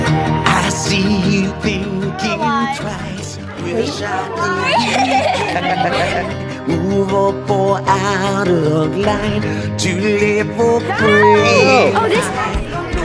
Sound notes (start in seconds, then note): 4.5 laughter; 12.8 excited chatter